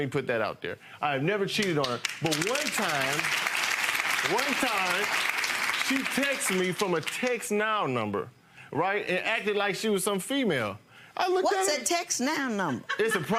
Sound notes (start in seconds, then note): 1.6 audience clapping; 4.8 audience continues clapping; 12.5 female laughing